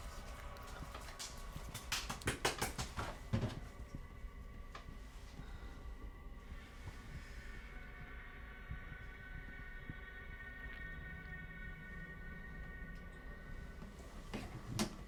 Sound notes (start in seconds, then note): 1.6 hand slapping; 6.6 intense music